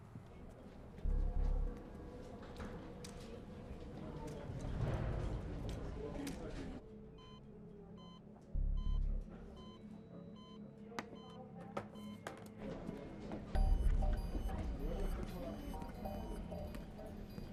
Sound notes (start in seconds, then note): 4.4 people chatting indistinctly; 8.6 machine beeping; 13.5 tense suspenseful music